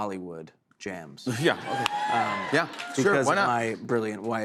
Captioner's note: cheering